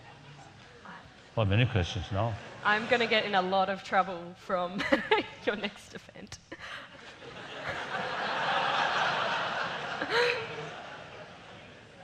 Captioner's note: laughs